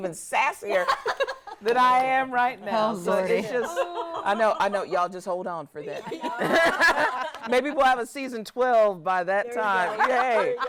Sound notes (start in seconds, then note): 3.3 laughs; 6.0 everyone laughs